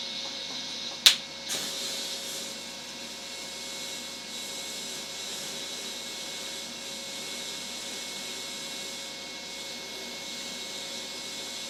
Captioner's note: welding noises